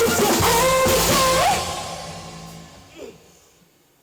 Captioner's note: about to cry